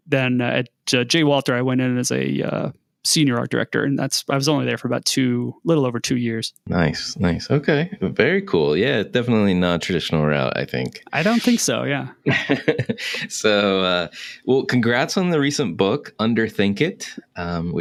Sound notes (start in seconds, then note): 12.1 laughing